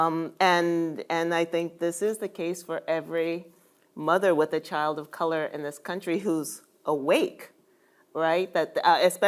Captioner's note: none